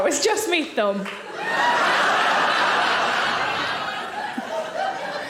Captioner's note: audience laughing